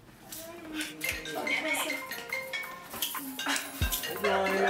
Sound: phone ringing

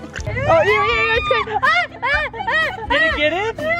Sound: screams

